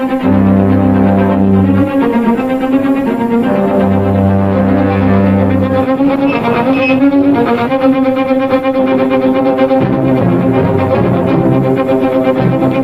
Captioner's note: ominous music; brakes screeching